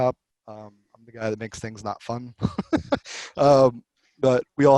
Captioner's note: laughs